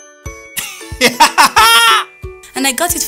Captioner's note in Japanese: マークの笑い声